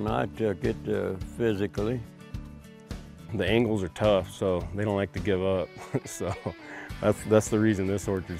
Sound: laughs

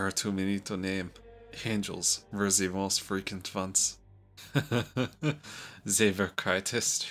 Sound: Henrik chuckles

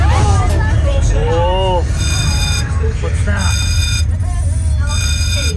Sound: alarm ringing

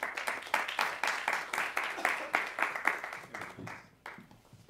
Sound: applause

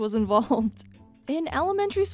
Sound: chuckling

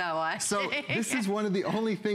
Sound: laughter

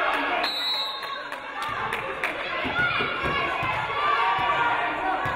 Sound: referee blows whistle

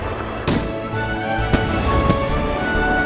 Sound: crackers bursting

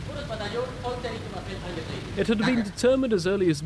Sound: speaking in a foreign language

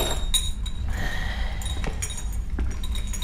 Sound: sigh

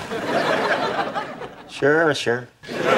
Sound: audience laughing

